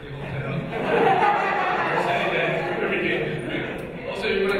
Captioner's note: audience laughing